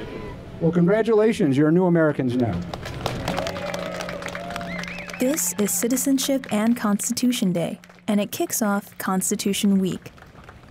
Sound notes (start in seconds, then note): 2.6 applause